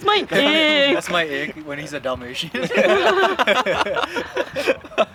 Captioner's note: laughter